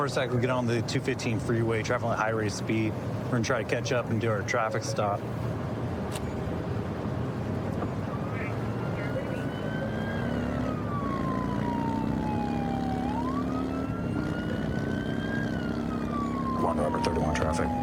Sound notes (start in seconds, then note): 7.9 siren blaring